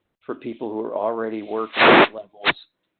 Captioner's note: sliding static